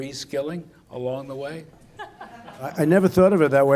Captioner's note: laughter